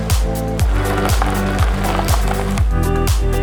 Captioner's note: gravel crunching